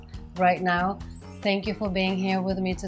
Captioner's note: twinkling